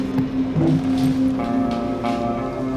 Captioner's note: phone thudding; siren wailing in background; chair sliding; footsteps shuffling